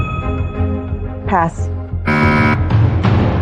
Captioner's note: buzzer sounds